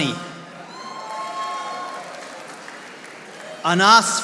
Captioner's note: audience applauding